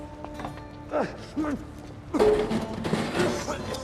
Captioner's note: retching